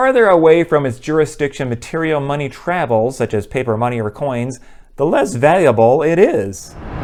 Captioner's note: swoosh